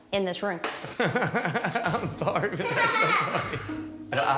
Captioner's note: laughs